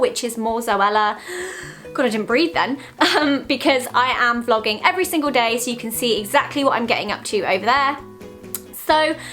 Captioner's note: inhales